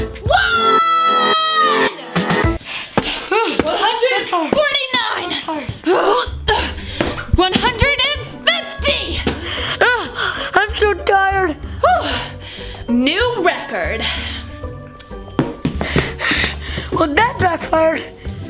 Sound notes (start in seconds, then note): 5.8 grunting; 11.6 exhaling